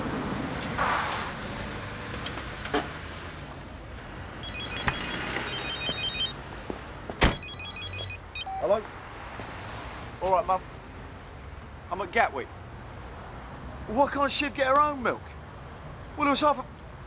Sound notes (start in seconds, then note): 4.4 mobile phone rings